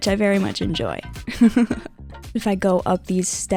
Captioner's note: laughing